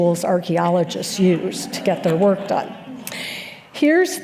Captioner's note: laughter